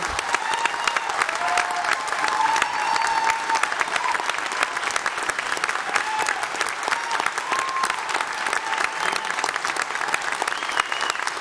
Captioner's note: applause